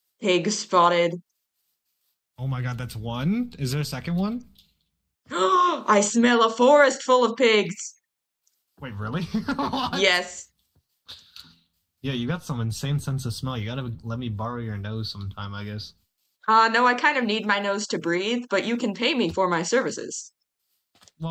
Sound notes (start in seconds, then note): 5.3 gasp; 9.0 laughs